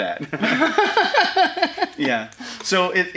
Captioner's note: laughing